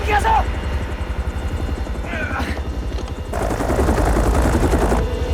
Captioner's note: grunts